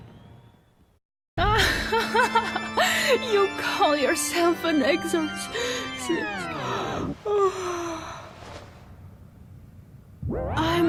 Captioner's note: yawn